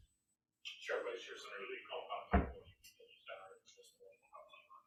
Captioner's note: speaking faintly off mic